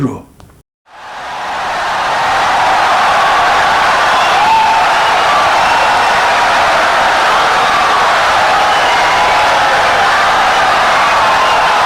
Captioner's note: wild applause and cheering for 17 seconds